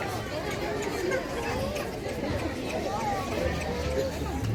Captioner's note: background noise at public market